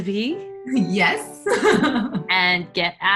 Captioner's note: laughs